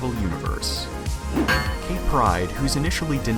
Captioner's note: clank